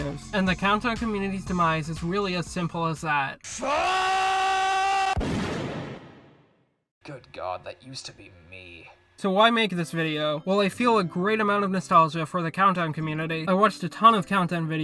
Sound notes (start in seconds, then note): 5.1 gunshot sound effect